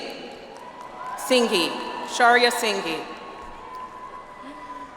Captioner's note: audience applauds